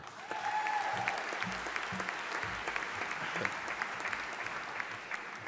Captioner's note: audience applauding